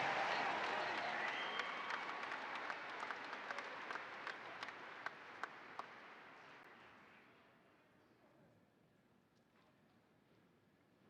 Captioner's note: applause